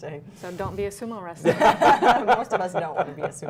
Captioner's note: laughter